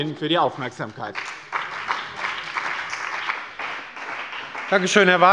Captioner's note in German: Beifall bei dem BÜNDNIS 90/DIE GRÜNEN und der CDU